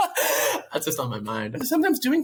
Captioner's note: laughs